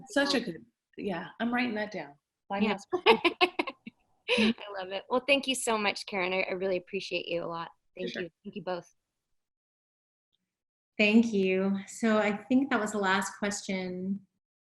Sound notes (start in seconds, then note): 2.9 laughs